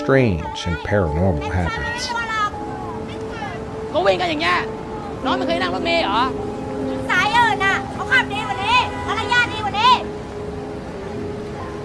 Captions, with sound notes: and paranormal happens. (people yelling in foreign language) (car horns honking)